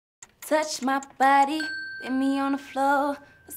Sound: bell dings

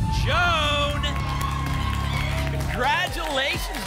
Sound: applause and cheering

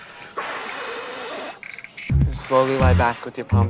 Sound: exhales sharply; exhaling

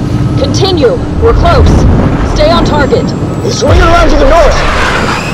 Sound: none

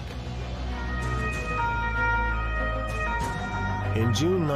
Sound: sirens wailing

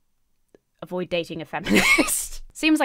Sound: laughs

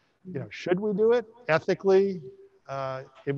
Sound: none

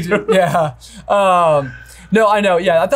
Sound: laughs

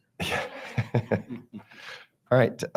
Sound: board members chuckling

